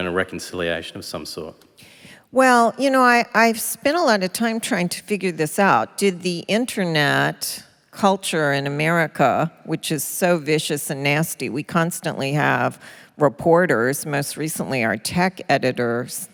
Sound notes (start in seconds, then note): none